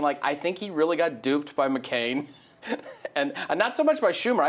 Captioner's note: laughs